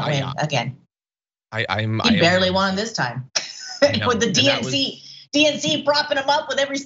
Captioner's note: laugh